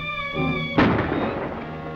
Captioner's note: gunshot